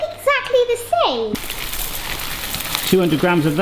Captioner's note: rice rustling